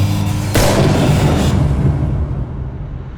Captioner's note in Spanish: disparos